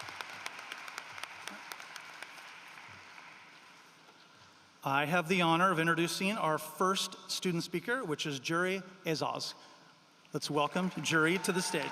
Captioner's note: applause